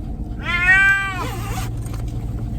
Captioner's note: meow